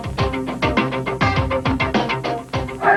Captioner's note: crowd yelling